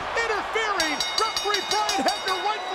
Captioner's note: bell dinging